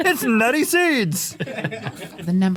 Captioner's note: laughing